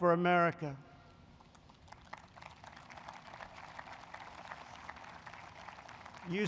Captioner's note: applause